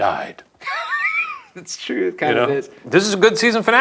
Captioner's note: laughing